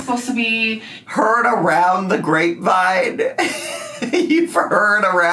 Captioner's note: laughs